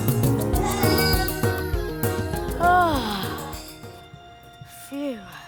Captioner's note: baby quietens down